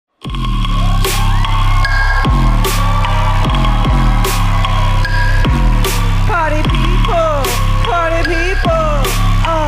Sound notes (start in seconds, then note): 0.4 heavy rhythmic music; 0.6 audience cheering happily